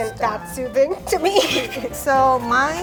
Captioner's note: laughs